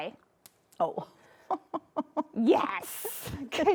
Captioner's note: laughing